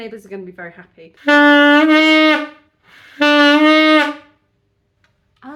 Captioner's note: tooting